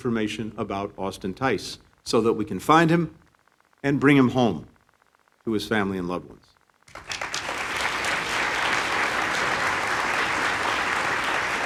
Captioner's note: applause